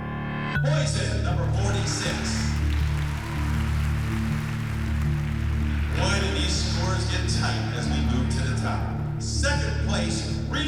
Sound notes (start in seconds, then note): 1.0 applause